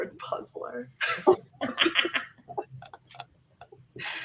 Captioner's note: laughter